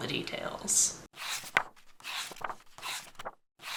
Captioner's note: pages turning